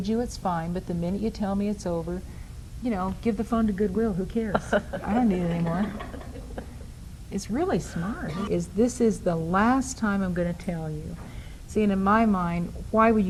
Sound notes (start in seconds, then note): 5.5 and audience members laugh